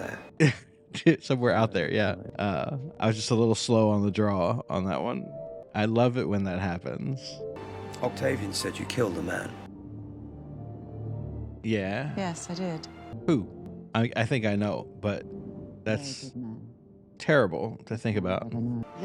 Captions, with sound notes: [laughs] “Somewhere out there”, yeah. I was just a little slow on the draw on that one. I love it when that happens. Yeahhh... Who? I mean, I think I know, but that's...terrible to think about.